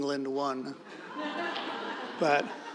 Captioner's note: audience laughing